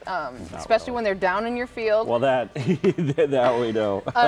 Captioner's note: laughs